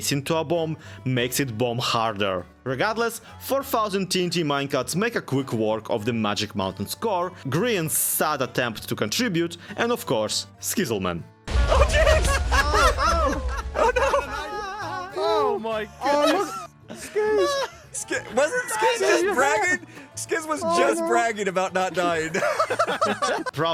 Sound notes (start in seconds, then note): 11.4 TNT exploding; 11.5 group laughing; 22.1 laughs